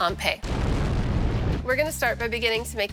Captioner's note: blasting